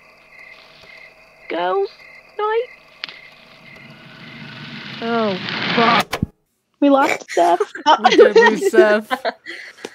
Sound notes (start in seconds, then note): 2.6 sound of encroaching beast; 5.9 click